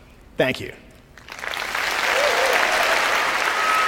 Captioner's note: applause